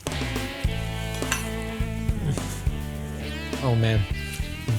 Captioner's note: smacking lips